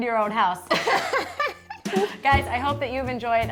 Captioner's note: laughs